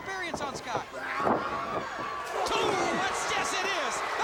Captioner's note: crowd cheering